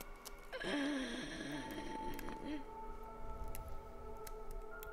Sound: banshee gasping

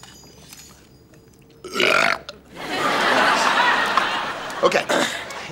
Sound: both burp

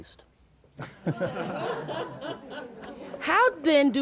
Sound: all chuckle

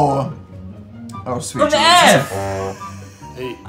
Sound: farty horn noise

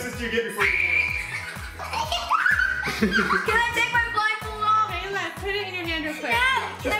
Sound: screaming

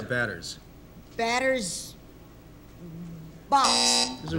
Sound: buzzer

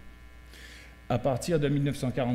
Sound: speaking french

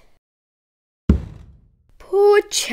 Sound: thud

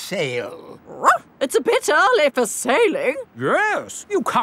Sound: barks

